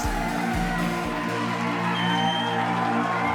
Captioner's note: cheering